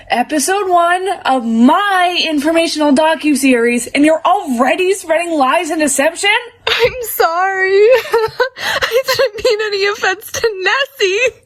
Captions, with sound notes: Episode 1 of MY informational docuseries and you're ALREADY spreading lies and deception?! I'm sorry! [laughs] I didn't mean any offense to NESSIE!